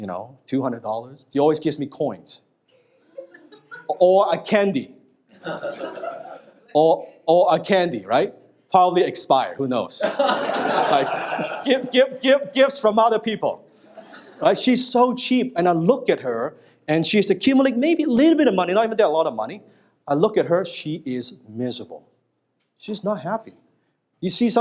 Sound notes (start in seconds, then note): 5.3 audience laughing; 10.0 audience laughing